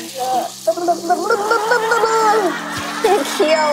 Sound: lip trilling

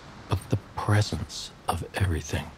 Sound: none

